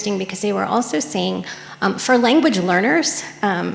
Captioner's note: none